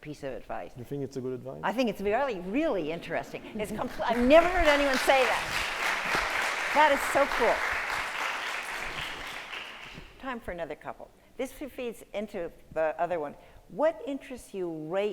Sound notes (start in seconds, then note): 6.9 applause